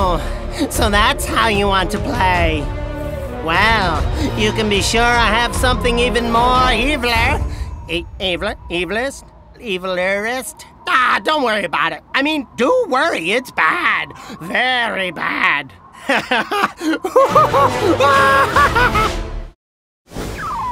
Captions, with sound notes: - Oh, so that's how you want to play. Well, you can be sure I have something even more evilier. Evilest? Evilerest? Ah, don't worry about it. I mean, do worry, it's bad. Very bad. (cackling)